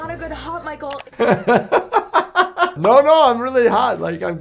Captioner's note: laughing